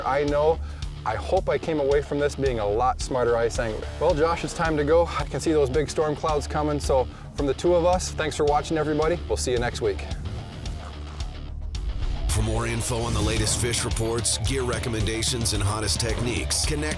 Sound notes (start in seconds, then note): 10.5 rock music; 12.2 voiceover